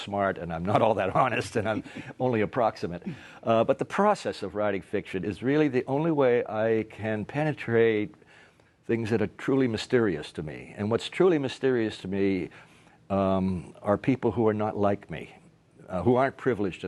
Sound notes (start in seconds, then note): 1.6 laughter